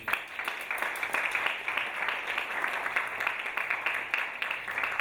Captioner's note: audience applauding